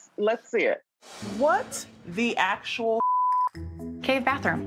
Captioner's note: beep